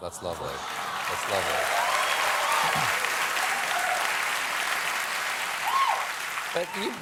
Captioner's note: applause